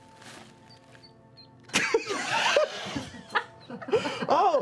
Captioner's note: bird tweeting